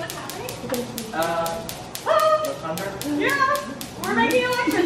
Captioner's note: electricity clicking